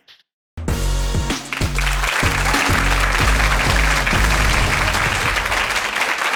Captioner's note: upbeat music; applause